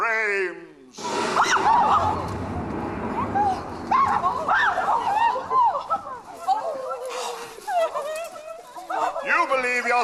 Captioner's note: thunder crackles, bridesmaids shriek